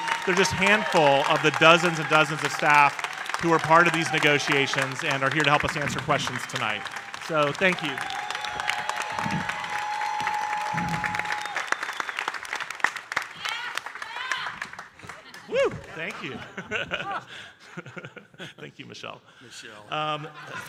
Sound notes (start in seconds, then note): 9.0 audience cheering and applauding